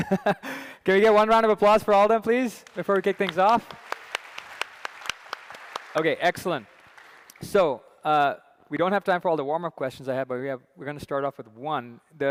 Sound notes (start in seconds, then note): 3.9 applause